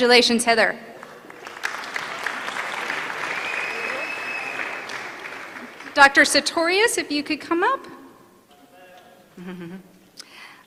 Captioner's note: applause